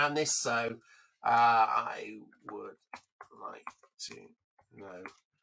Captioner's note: keyboard clanking